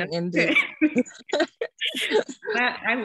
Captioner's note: laughing